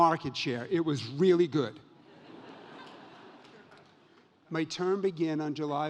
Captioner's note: audience laughs